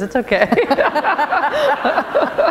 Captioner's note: laughter